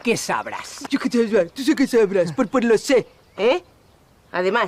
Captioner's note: mocking